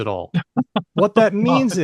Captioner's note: laughs